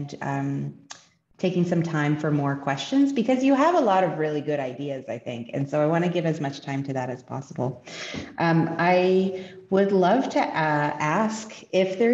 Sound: French

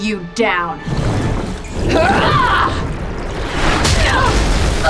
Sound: fighting grunts and impacts

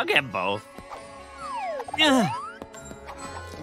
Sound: grunting

